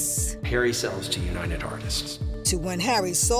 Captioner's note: echoing